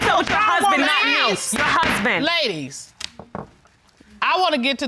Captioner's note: bangs gavel